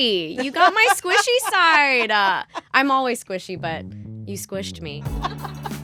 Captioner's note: laughter; laughter